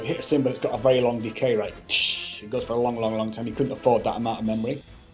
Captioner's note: imitates cymbal